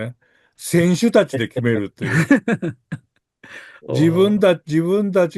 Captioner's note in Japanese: 笑い